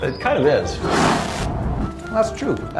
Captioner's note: blast